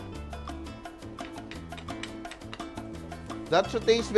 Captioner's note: clang